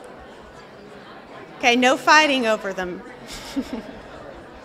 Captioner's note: laughter and conversation continues; laughs